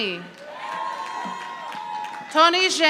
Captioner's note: audience applauding